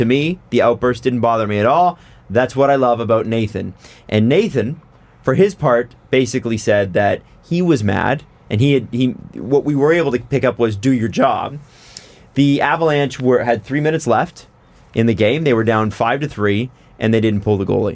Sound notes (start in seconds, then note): none